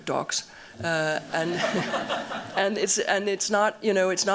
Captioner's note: laughter